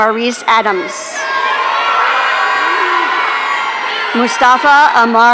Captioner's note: audience cheering